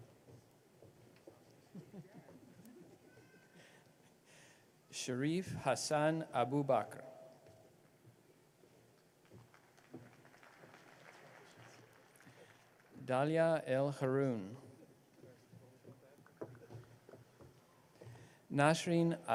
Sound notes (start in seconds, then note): 6.0 applause